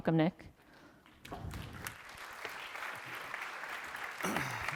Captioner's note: applause